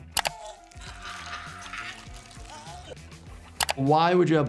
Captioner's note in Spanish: personaje gimiendo